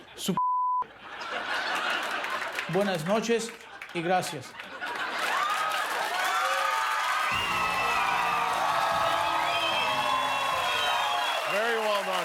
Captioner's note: speaking in spanish; cheers and applause